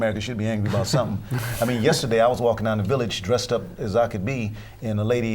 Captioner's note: laughter